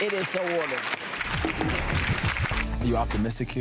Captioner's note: gavel banging